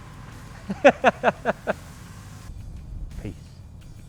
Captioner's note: laughter